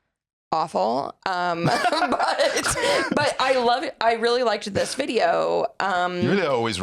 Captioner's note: laughs